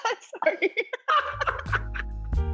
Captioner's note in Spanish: risas